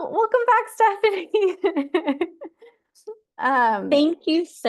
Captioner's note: laughter